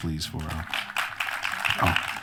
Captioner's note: applause